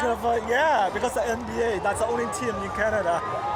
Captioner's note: cheering